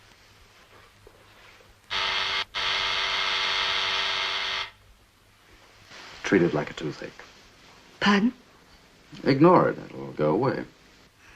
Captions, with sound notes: (Door buzzer) - Treat it like a toothache. - Pardon? Ignore it, it'll go away.